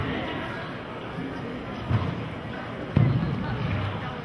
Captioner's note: chattering